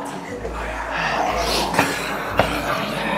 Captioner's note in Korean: 한숨